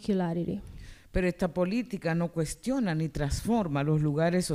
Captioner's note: speaking spanish